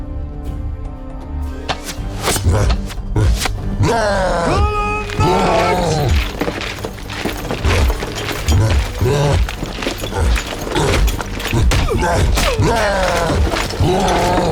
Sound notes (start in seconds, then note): 3.1 roars; 6.3 suspenseful music playing; 11.6 soldier 1 grunts; 12.6 cyclops roaring